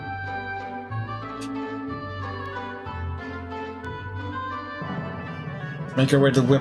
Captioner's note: laughs softly